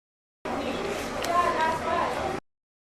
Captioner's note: <i>Coffee shop sounds/pages turning</i>